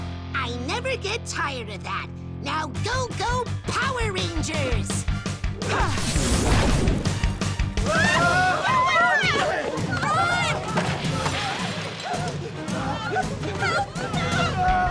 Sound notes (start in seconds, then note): 5.8 up-tempo music playing; 7.8 all screaming